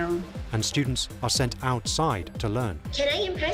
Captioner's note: voiceover